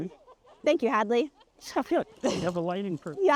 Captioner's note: chuckling